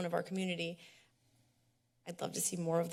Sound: pause

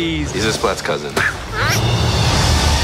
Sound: splat noises

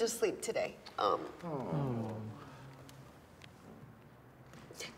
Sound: men awwing

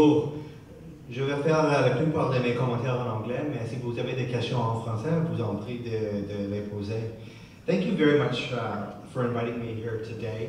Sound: speaking french

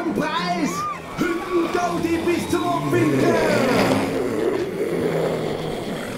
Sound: growling

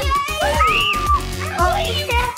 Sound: screams

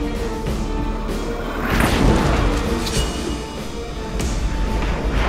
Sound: jet engine roaring

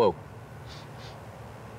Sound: sniff, sniff

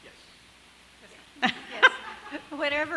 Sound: laughing

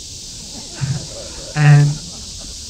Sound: laughter

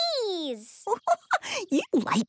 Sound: giggling

